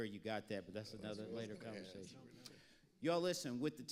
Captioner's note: panelists agreeing